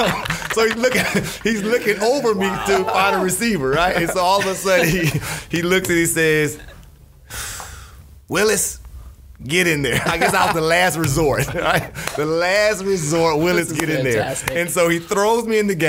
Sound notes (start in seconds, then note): 6.3 sighs